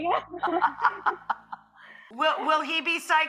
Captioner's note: laughing loudly